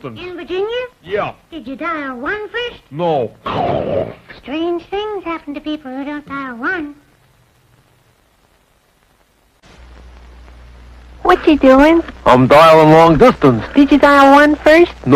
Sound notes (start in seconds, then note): 3.4 chomp!